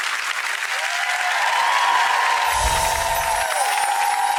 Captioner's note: audience applauds; audience cheers